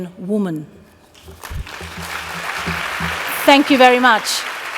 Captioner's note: applause